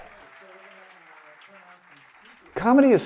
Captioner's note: audience applauding